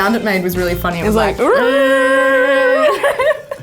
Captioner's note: humming; laughing